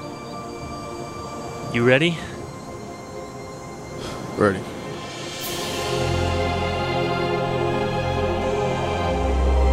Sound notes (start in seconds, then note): 3.9 sighs; 5.4 light dramatic music